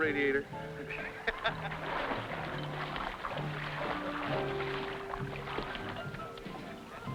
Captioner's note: upbeat music; water splashing